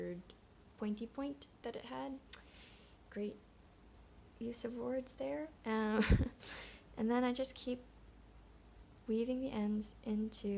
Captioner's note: chuckles